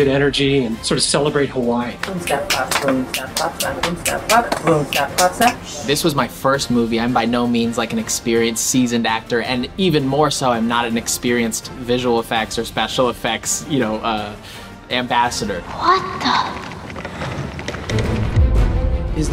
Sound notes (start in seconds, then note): 2.0 snap and clap sounds; 17.9 dramatic music